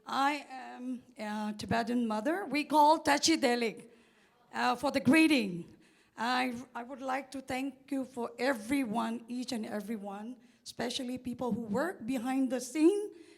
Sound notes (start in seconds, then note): 3.4 tibetan